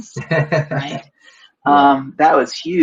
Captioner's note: laughs